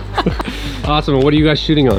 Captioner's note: laughing